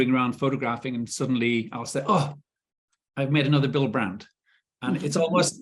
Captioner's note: chuckling